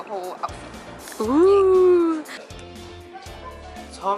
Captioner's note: ooohh